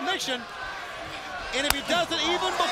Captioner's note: crowd chatter